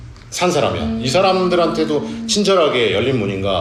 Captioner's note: hmm